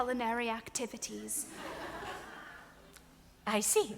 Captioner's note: audience laughs